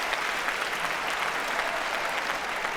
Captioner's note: cheering